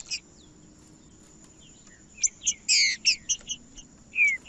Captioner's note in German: trinca ferro cantando